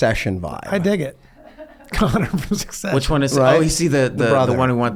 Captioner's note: laughs